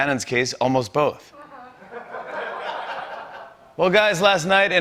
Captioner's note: laughter